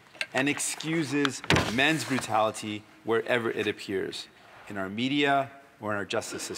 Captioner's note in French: voix de l'interprète